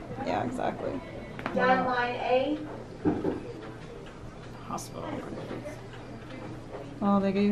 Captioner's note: gets interrupted by voice over the speaker